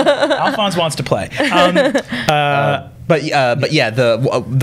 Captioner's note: laughter